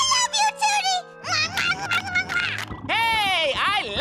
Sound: kissing

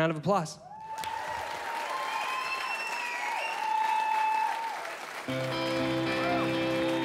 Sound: applause

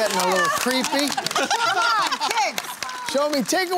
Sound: laughter

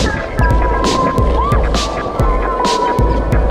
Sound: screaming

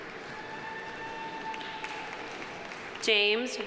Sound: audience applauding

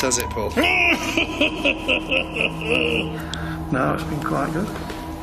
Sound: laughs ominously

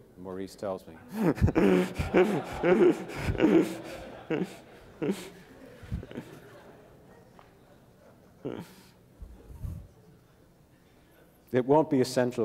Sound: laughter

